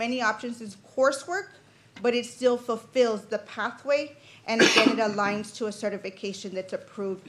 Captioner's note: clears throat; cough